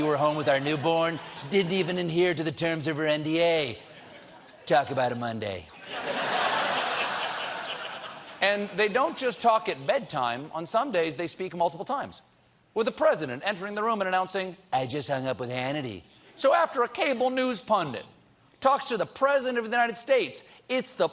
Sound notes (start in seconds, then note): 10.5 laughter